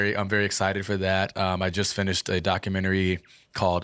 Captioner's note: laughing